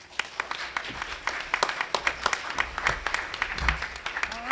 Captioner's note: applause